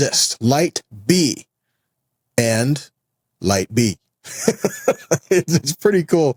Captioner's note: laughs